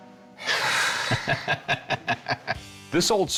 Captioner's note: laughter